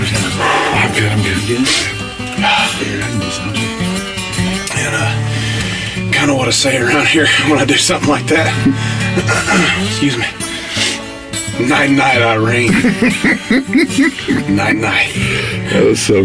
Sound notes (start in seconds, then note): 8.4 coughs; 12.4 men laugh